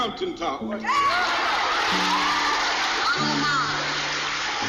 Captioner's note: group cheers